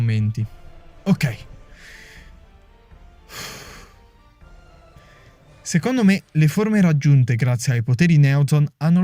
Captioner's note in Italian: exales